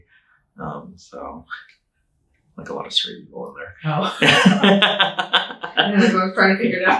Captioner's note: laughing